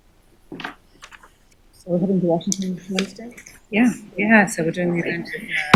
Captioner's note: chatter